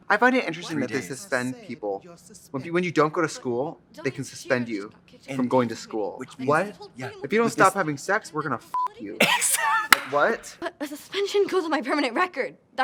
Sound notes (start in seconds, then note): 9.2 laughs and claps